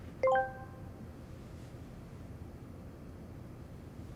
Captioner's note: machine beeps